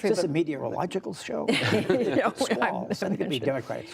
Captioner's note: laughter